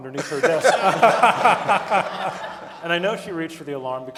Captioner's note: audience laughing